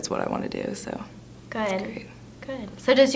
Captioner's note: quietly